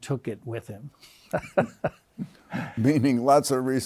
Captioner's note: laughs